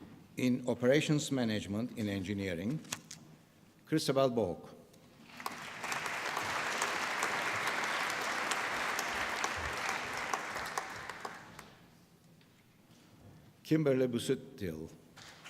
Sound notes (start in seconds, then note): 5.2 applause